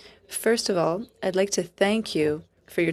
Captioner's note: speaking FRENCH